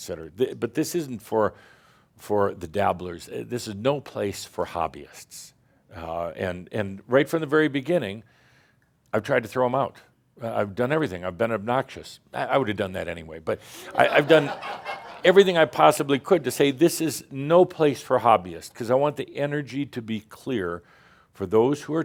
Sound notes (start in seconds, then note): 13.9 some chuckles